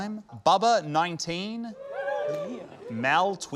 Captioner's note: scattered cheers